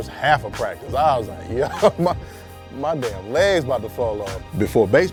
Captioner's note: chuckles